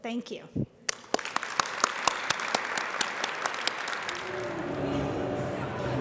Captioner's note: audience applauding